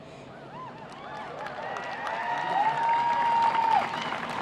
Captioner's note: applauding